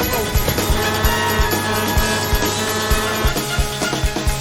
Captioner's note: shouting; horn honking